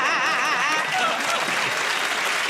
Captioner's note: laughter and applause